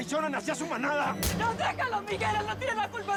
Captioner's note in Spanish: puñetazo